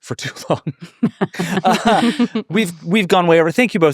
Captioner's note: laughing